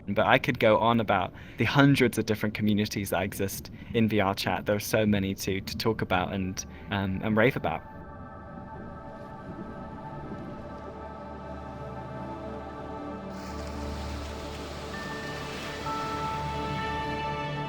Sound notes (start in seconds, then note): 8.8 ethereal music plays; 13.2 waves crashing